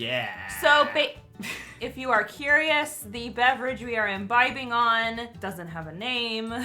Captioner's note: chuckles